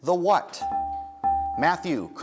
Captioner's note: dinging